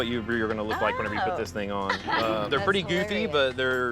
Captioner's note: laughs